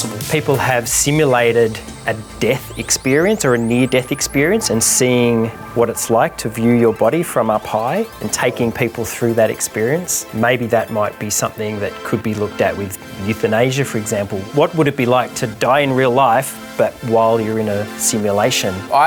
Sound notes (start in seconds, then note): none